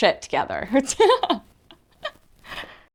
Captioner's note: laughs